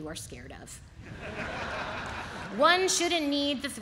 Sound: audience laughs

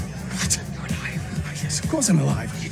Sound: whispering

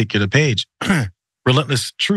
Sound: cough

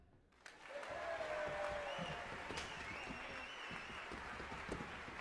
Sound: audience applauding

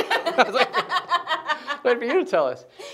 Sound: laughing

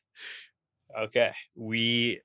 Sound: laughs

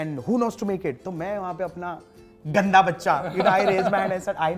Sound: chuckles

